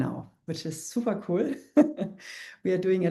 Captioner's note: chuckles